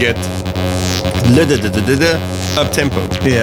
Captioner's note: mimics barrel organ